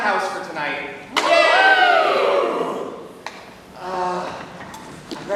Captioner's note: bar goers cheer